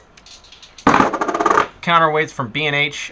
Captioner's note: metallic clattering